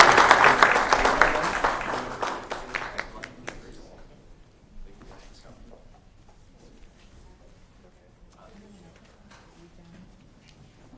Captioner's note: applause